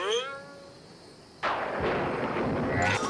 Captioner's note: thunder